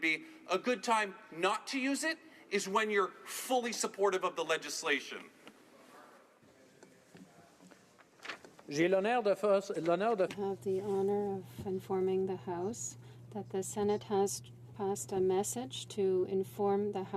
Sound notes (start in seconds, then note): 13.3 speaking French